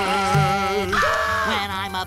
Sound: screaming

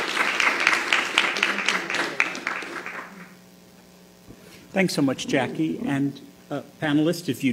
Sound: applause

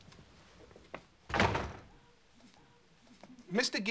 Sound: door closes

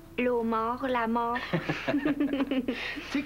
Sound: Rires

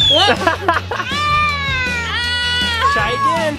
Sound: whistle blows; yells

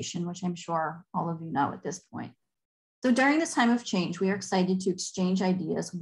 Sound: none

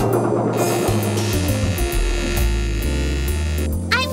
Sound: motor buzzing

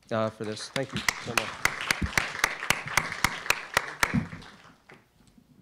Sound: applause

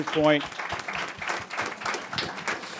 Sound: applause

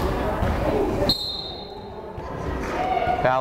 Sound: whistle blows

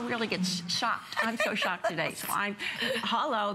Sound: laughter

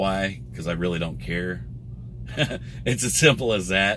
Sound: laughs

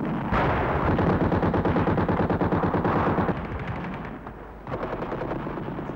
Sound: machine gun firing

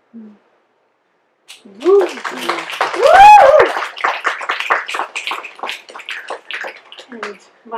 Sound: applause and snaps

